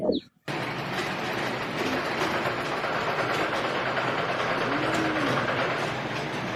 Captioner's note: sound of machines